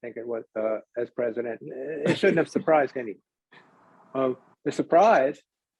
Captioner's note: laughs